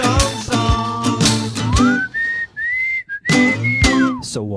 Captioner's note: whistles